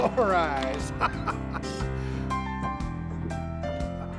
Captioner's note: laughs